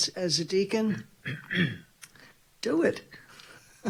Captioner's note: clears throat; laughing